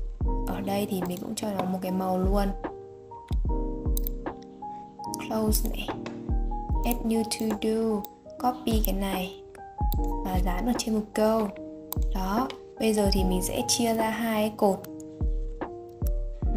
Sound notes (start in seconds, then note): 5.0 click close